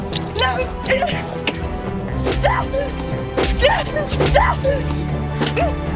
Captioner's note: punches and screams